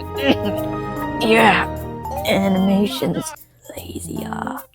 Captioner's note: violent purposeful coughing